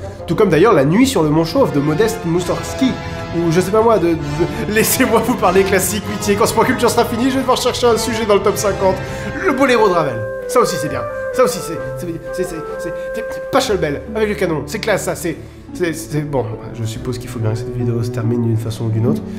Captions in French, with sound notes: Tout comme d'ailleurs la Nuit sur le Mont chauve, du modeste Moussorgski ! Ou je sais pas, moi, de... *voix désespérée* Laissez-moi vous parler classique, pitié ! Quand ce Point Culture sera fini, je vais devoir chercher un sujet dans le Top 50 ! Le Bolero de Ravel ! ça aussi c'est bien, ça aussi c'est... C'est, c'est... C'est... C'est... Pachelbel ! Avec le canon ! C'est classe, ça, c'est.. C'est... Bon, je suppose qu'il faut bien que cette vidéo se termine d'une façon ou d'une autre...